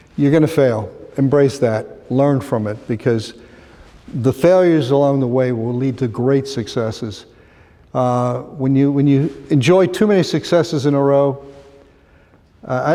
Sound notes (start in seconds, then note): none